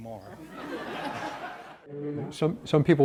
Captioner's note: audience laughs